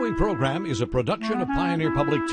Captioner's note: light woodwind music; voiceover